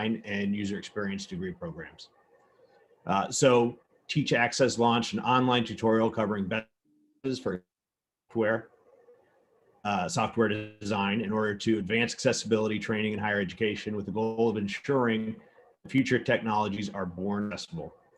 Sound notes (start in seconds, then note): 6.7 audio distorts